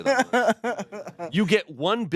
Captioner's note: everyone laughs